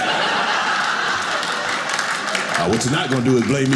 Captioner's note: audience laughing